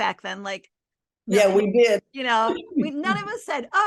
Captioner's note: giggles